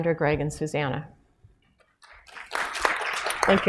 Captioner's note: applause